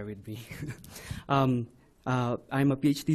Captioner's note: laughs